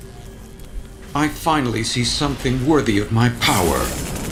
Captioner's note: ultron voice